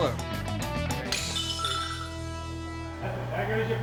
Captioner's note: dish breaks